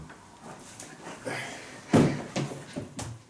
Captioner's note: sighs